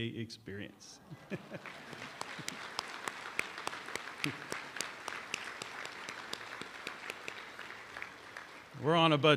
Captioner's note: applause